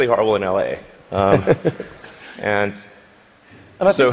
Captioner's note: laughter